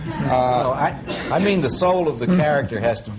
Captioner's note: laughter